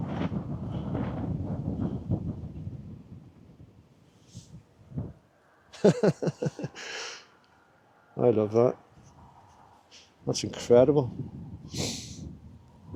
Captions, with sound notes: ...( chuckle ) ...I love that. That`s incredible...